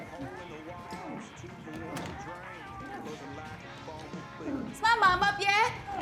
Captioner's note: Ellie moans; Tommy moans